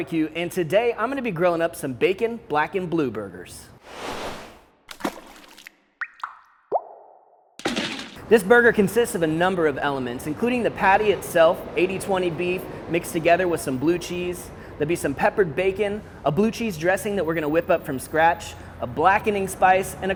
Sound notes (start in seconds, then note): 3.8 whooshing sound; 4.9 water dripping